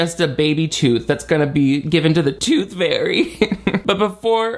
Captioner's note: laughs